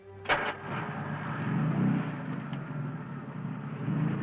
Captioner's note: engine revving